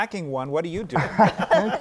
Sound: laughter

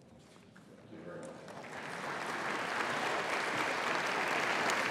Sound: applause

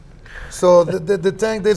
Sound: laughing

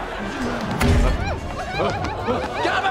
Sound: squealing

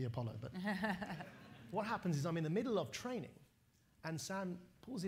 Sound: laughter

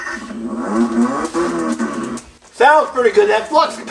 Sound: car engine revs

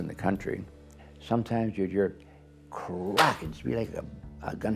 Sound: claps

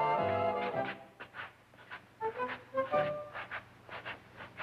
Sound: shoes shuffling

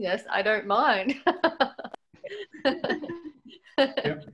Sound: laughs

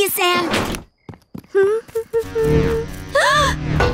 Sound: humming; gasps

